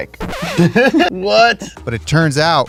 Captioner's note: laughing